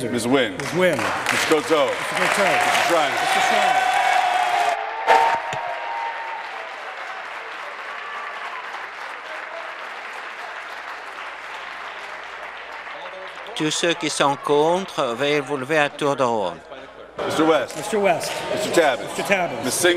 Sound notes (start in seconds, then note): 5.1 applause; 8.1 applause and cheering